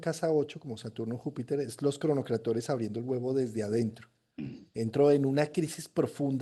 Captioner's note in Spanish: carraspeo